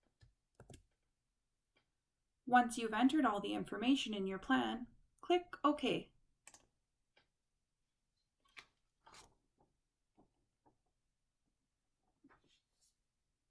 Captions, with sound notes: Once you've entered all the information in your plan, click OK. [Click]